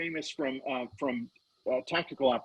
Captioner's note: laughing